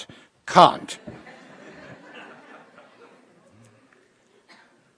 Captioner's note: laughter